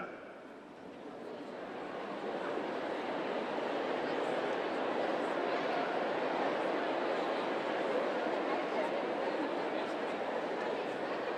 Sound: laughter and noise from crowd as they introduce themselves

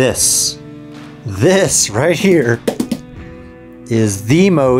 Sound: speaker tapping the box

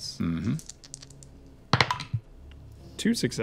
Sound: dice rolling

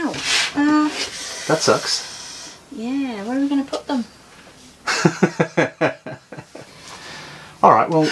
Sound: laughs

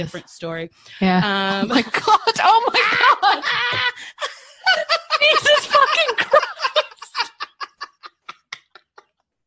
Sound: laughter

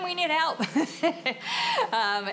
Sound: laughter

